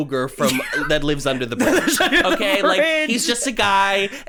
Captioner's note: laughing